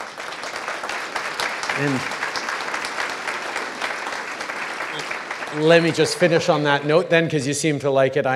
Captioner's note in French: Applaudissements